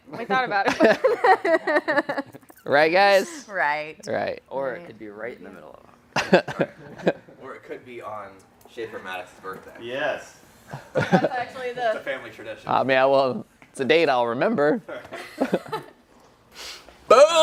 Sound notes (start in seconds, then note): 0.6 laughter; 6.1 laughter; 14.9 laughter